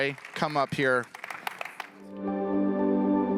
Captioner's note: audience applauding; gentle music